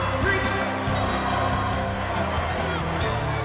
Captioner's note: whistle